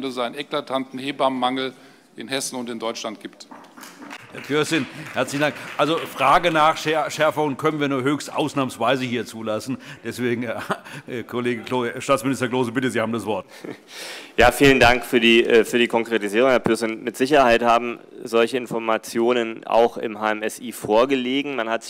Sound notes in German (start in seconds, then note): 3.8 Beifall